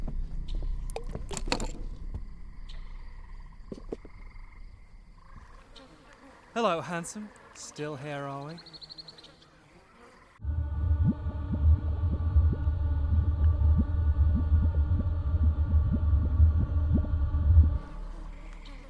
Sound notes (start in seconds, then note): 10.4 bubbling water; 17.8 swarms of flies